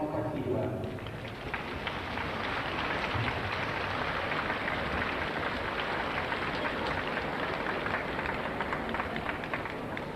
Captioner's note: applause